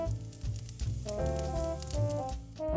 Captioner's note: fire crackling